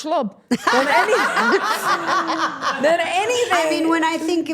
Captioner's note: everyone laughing